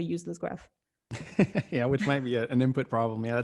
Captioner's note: laughing